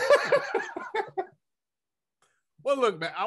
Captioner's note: laughing